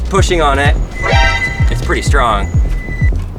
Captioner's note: bike horn